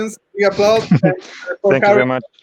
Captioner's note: audio buffering